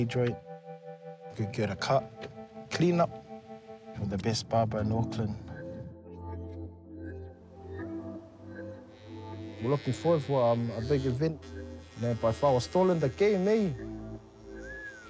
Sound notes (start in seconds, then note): 9.0 clippers buzz; 14.5 whistles